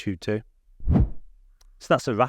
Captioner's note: screen wipe whooshes